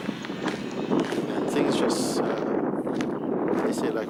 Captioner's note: sounds of loud thunder